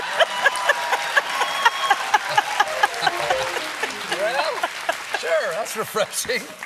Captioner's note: cheers and applause